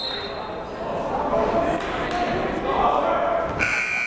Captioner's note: whistle blowing